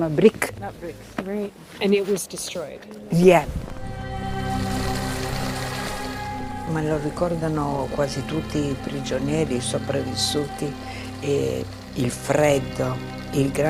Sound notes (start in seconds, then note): 6.4 speaking in foreign language